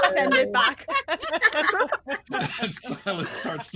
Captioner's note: all laughing